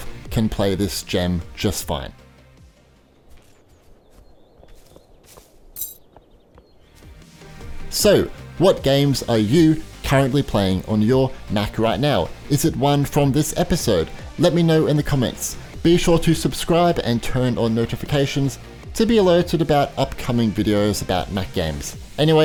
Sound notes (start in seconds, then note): 2.8 birds tweeting; 3.2 footsteps clopping; 5.7 keys clink